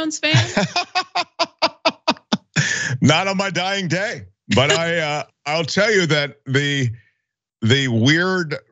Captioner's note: laugh